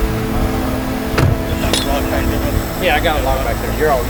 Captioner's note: vehicle door banging